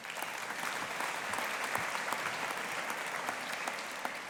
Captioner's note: audience applauding